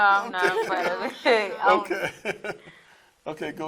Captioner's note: laughs